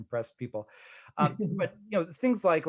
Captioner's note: laughing